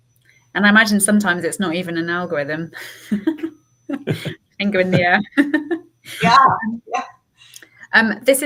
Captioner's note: laughing